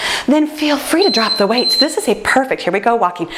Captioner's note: timer beeps